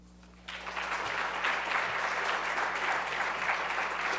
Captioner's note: applause